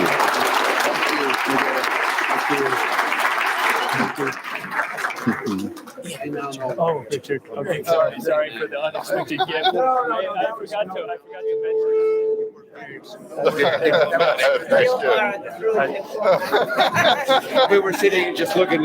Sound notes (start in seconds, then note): 0.0 round of applause; 6.8 crowd chatter